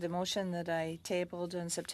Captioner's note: speaking French